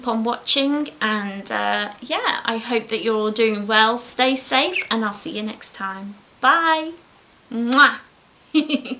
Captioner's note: giggles